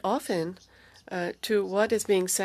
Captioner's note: speaking French